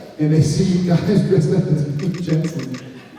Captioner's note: laughing